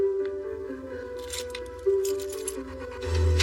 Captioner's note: tenense music; keys jingngling